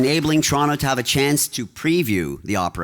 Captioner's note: applause